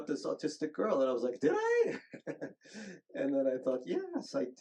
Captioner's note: chuckles